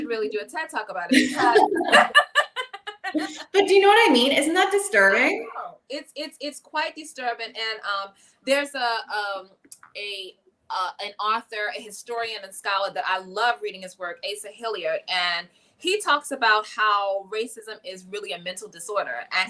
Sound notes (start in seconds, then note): 1.1 chuckling